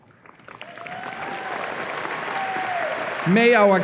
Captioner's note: audience applause and cheers